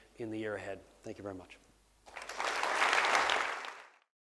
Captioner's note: applause